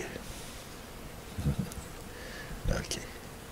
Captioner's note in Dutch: lacht